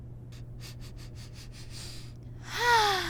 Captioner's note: sniffing